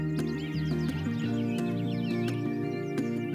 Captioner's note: birds chirping